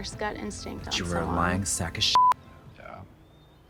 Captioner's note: beep